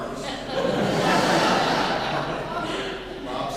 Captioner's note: laughing